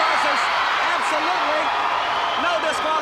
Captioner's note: crowd cheering